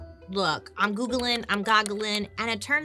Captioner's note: keyboard buttons clicking